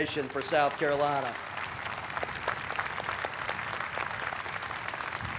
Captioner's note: audience applauding